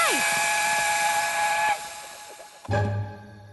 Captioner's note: whistle